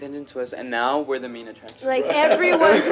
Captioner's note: laughing